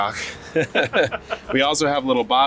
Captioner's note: both laughing